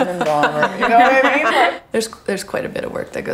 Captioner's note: laughing